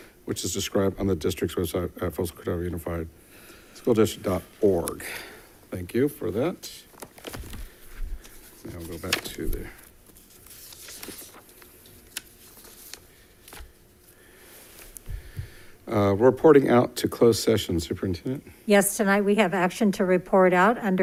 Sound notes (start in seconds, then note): 10.4 papers flipping